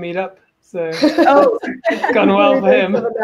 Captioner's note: laughs